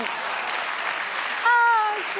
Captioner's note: audience applauds